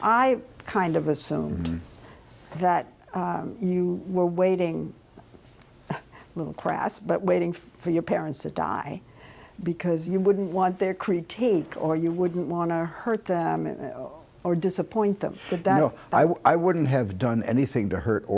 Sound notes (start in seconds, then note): 5.0 laughs